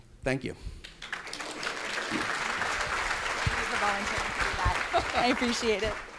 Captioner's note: applause